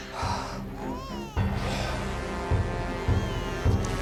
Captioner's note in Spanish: llanto de bebé